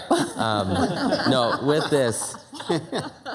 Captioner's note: laugh